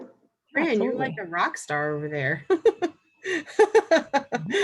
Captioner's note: laughs